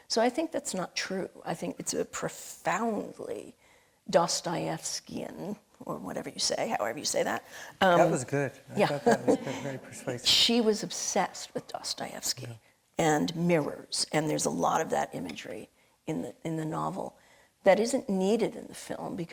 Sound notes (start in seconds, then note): 8.8 laughing; 9.0 audience laughing